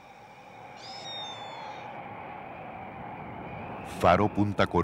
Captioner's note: wind